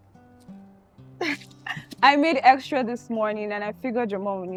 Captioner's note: chuckles